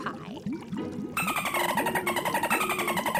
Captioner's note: dolphin noises